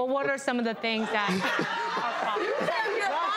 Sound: audience laughs

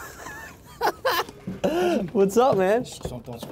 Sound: laughing

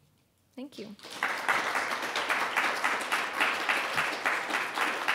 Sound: audience applauding

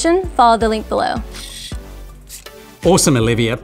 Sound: gears moving

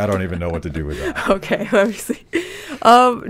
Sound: laughs

